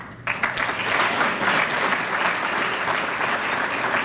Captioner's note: applause